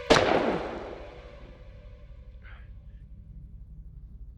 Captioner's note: gun fires; chilling music; body thuds